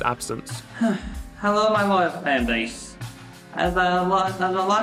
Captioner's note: sigh